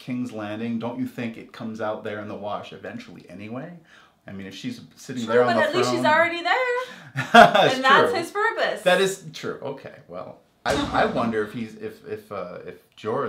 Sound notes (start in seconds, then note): 7.1 laugh